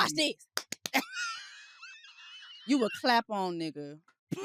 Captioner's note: laughs